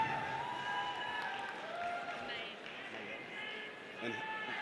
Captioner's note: audience cheers